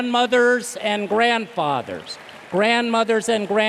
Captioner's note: applause